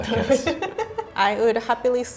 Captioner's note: laughing